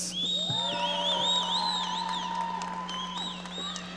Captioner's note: audience cheering